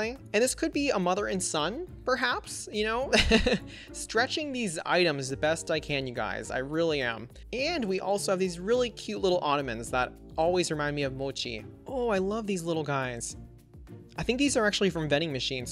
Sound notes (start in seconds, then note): 3.2 laughs